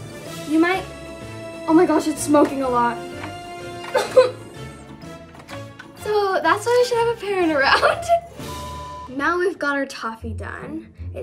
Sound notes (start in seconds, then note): 3.7 coughs